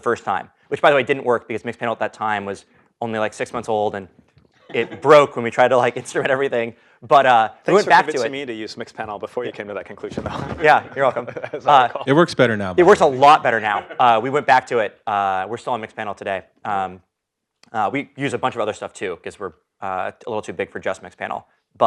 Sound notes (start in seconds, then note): 10.3 laugh